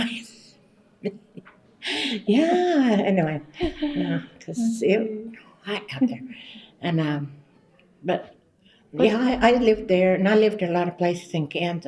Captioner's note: laughs